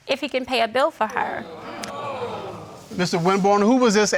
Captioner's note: audience gasping